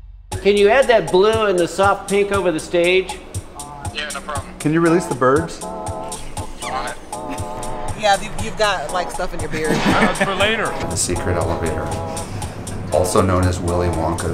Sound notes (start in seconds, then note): 2.8 voice over phone; 5.9 laughs; 7.0 voice over phone